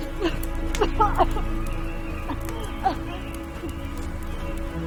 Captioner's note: Andrea coughs; suspenseful music